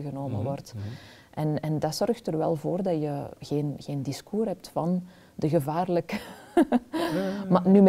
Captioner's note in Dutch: lacht